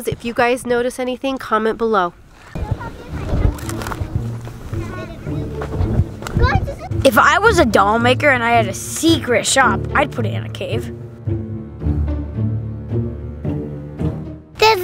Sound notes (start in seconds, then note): 2.5 children chattering; 12.1 dramatic music